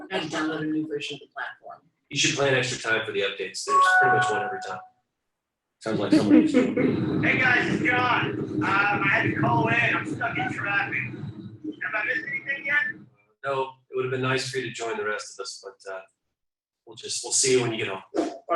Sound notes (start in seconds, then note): 3.6 electronic chiming; 6.7 wind loudly roaring